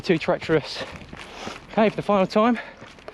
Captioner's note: gravel crunches